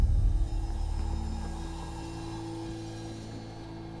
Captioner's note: wind whistling